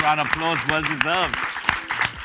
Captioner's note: audience applauds